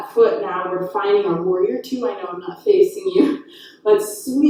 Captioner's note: chuckles